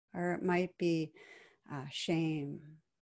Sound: none

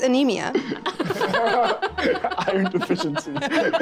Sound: group chuckling

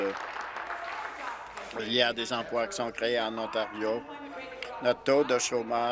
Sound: applause

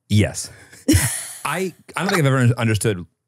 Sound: laugh

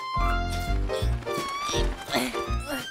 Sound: Beast laughing

